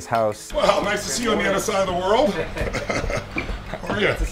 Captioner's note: laughs